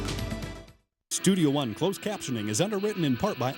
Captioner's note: voiceover